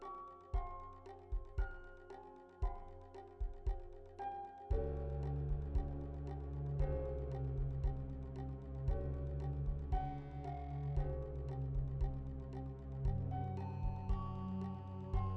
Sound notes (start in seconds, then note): none